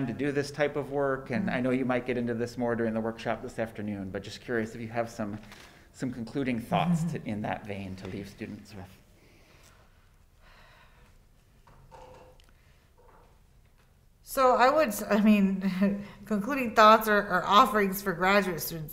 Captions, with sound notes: to do this type of work? And I know you might get into this more during the workshop this afternoon, but just curious if you have some concluding thoughts in that vein to leave students with? - So I would, I mean, (chuckles) concluding thoughts or offerings for graduate students